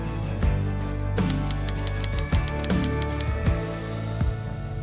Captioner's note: graphic clicking